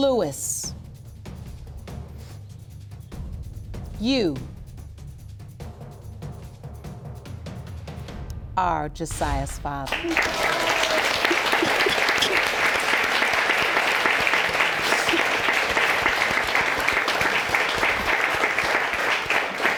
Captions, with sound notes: you are Ja'siah's father. (APPLAUSE) (SOBBING) And she's my daughter?